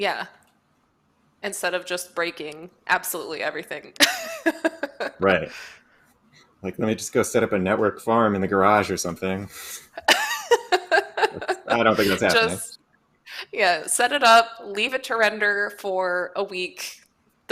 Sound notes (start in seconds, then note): 4.0 laughs; 10.0 laughter